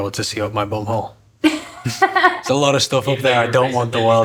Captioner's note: laughs